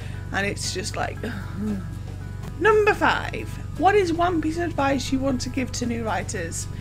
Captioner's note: frustrated groan